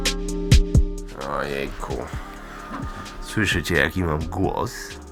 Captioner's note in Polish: niskim, ochrypłym głosem